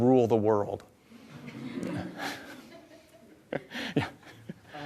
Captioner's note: audience laughs